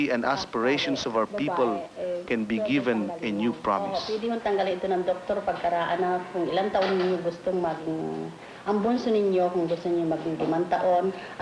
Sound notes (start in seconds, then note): 6.0 women speaking Tagalog